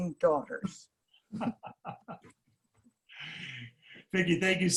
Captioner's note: people laughing